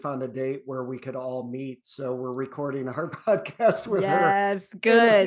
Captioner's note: chuckles